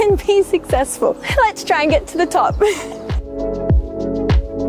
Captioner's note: laughs; gentle upbeat music